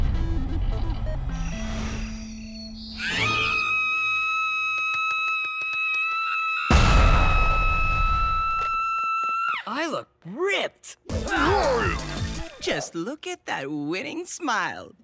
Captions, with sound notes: [screaming] I look ripped. Just look at that winning smile.